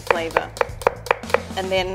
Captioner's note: knife tapping against wooden board